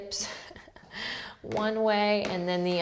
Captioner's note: laughs